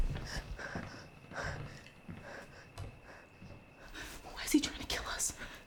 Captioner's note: Claire panting